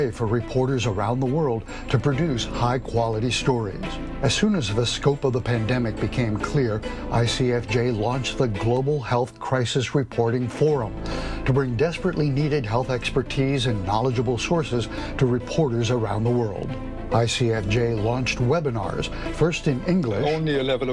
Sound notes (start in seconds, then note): 19.0 webinar host speaking English